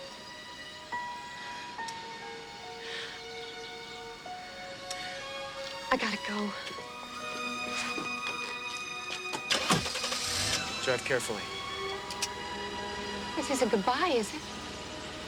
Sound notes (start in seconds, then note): 0.1 sad music; 9.2 car engine cranking